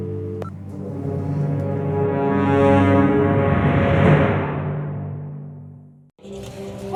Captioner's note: phone beeps; dramatic music; brooding music